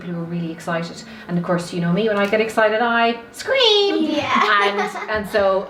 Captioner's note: laughs